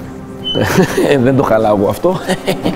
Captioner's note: laughs